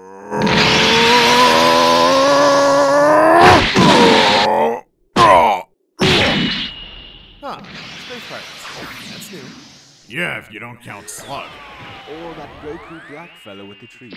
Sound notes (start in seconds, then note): 0.0 PICCOLO shouts; 5.1 PICCOLO groans